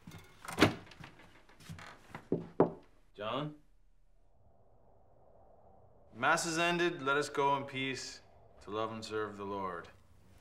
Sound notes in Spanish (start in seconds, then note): 0.4 la puerta se cierra; 2.7 golpeteo